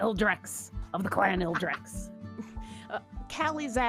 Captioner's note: lady chuckling